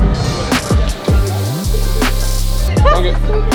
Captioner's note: mist sprays